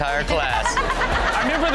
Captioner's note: Chanel laughs